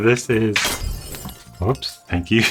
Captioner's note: glass breaking